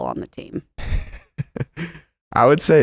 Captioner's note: laughs